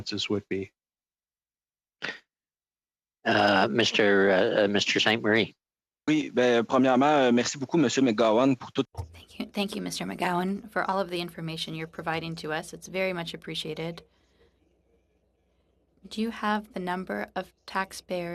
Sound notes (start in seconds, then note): 12.0 speaking FRENCH